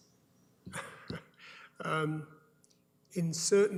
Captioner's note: chuckles